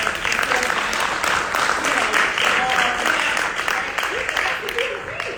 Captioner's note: audience applauds